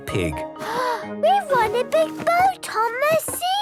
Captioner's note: gasps